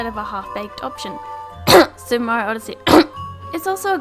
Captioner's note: cough